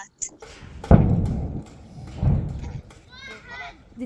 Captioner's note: loud explosion